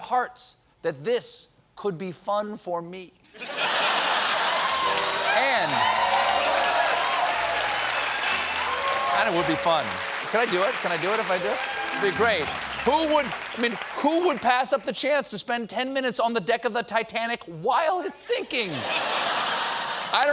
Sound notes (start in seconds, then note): 3.3 laughter; 4.8 piano riff; 9.4 cheers and applause